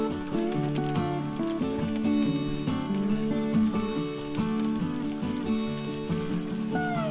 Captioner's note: light rain hitting the canoe